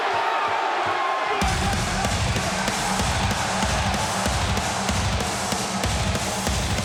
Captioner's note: crowd cheering; upbeat music